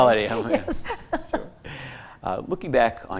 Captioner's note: both chuckle